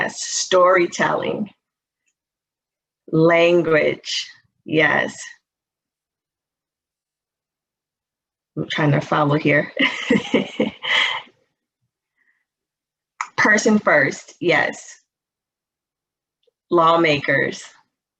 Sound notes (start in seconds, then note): 9.8 chuckles